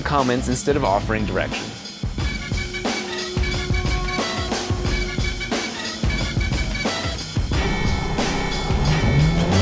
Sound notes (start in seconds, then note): 2.0 car engine revving; 2.0 energetic music